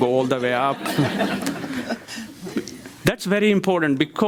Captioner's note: crowd laughs